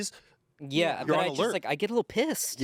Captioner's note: none